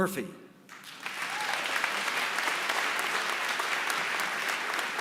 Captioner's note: applause